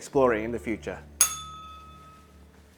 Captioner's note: bell rings